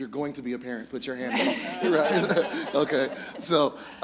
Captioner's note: audience laughs